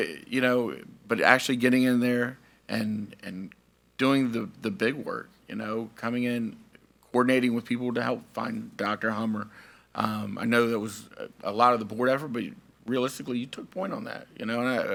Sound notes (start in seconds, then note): none